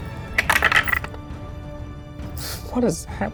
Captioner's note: die rattles